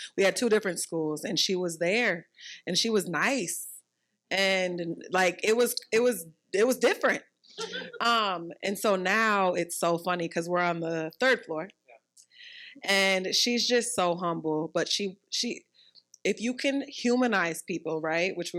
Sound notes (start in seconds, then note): 7.6 participants laughing